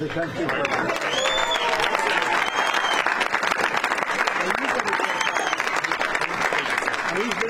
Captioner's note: applause